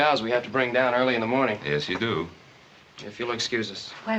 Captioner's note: none